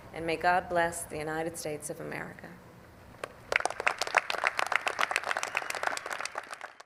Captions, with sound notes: And may God bless the United States of America. (Applause.)